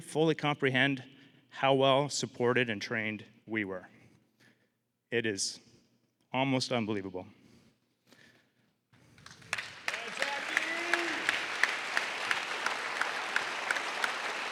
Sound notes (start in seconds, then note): 9.0 applause